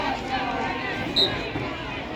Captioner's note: whistle blows